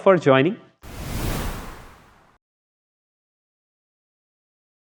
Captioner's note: logo swooshes